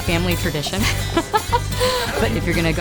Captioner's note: laughs